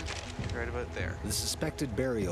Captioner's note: voiceover